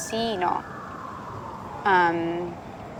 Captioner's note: siren